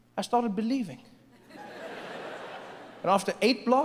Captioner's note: audience laughs